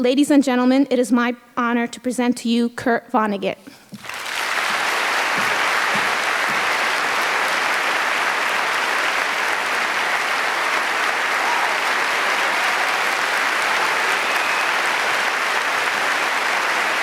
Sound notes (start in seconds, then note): 3.9 applause